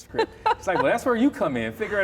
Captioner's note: laughs